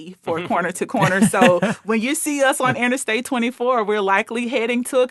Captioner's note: laughing